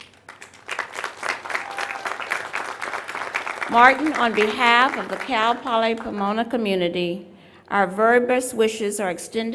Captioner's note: applause